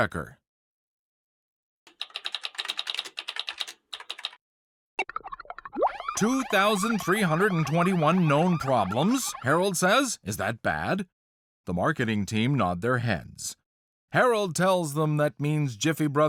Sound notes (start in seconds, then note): 0.1 typing sounds; 2.5 blip; 5.7 siren wails